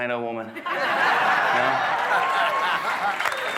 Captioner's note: guests laughing; guests clapping and cheering